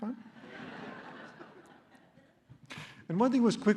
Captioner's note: laughter